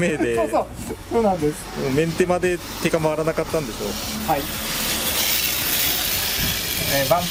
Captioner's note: laughs; laughs